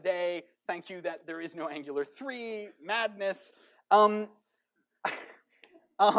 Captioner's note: chuckles